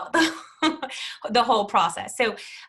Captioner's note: chuckles